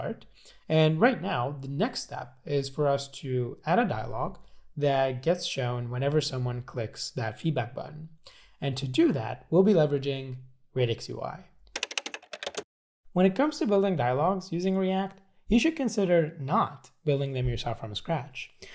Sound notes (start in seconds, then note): 11.7 keyboard clicking